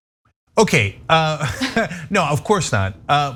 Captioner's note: laugh